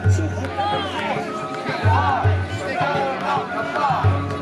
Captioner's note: crowd chanting